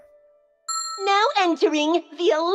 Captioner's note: ding!